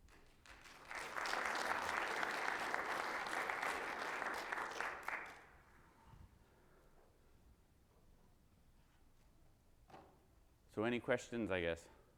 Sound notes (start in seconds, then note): 0.3 audience applauds